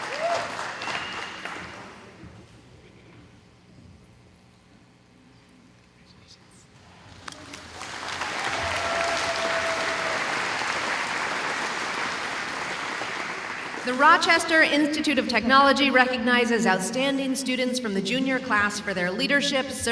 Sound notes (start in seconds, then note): 3.4 audience murmuring; 7.0 audience applauding